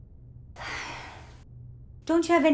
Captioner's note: sighs